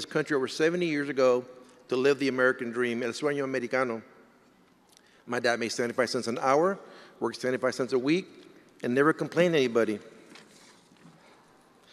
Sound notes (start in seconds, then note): none